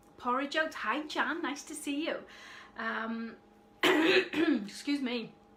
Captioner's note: clearing throat